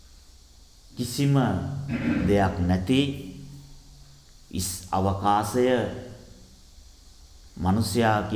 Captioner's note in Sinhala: උගුර කෑරීම